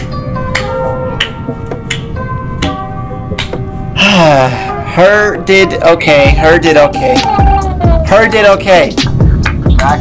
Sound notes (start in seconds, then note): 0.3 clapping; 3.9 sighs